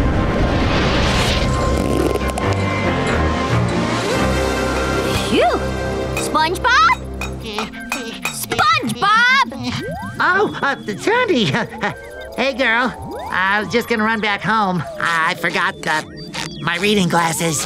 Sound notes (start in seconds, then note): 7.4 whimpering